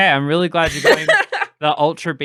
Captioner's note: laughter